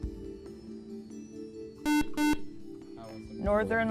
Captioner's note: buzzer